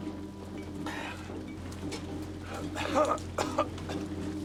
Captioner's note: Arno coughs